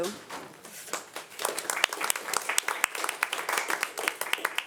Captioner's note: audience applauding